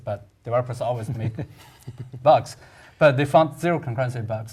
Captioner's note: laugh